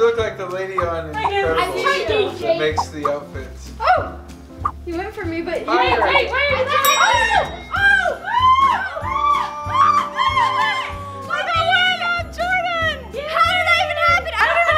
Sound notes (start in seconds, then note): 6.8 triumphant bell sound, all cheer